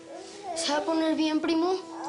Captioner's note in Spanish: Balbuceo de un bebé; Balbuceos del bebé